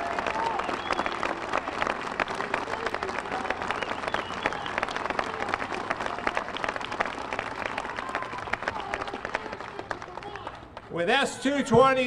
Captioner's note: applause